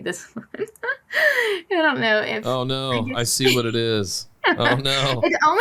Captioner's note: laughs